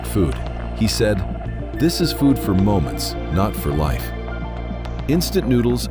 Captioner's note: thoughtful